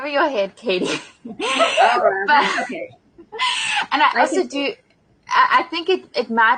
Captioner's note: laughing